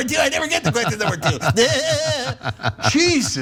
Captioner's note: laugh